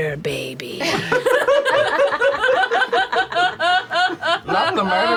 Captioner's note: laughter